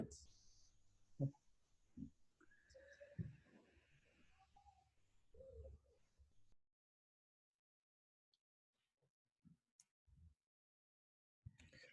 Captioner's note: silence